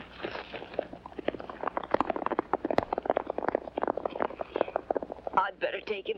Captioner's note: hooves pounding